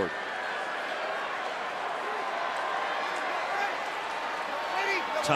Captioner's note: cheering